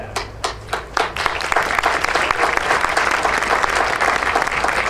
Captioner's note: audience applauding